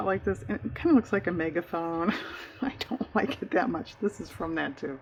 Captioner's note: laughs